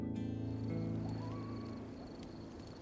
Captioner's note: coyote howling